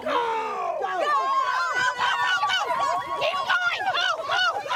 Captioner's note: yelling